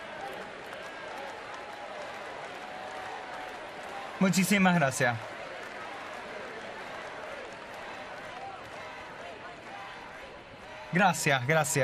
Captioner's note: chants of harry, harry, harry